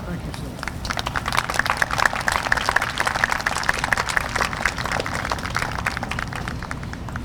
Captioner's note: applause